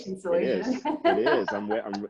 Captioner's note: laughs